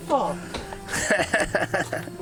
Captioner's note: laughs